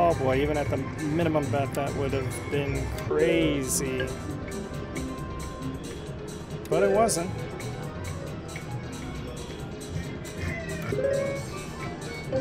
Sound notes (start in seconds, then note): none